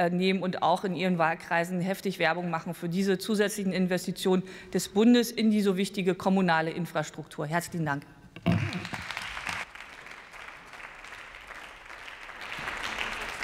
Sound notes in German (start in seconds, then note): 8.4 Beifall